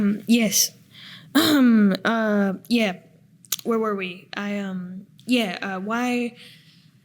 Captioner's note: coughing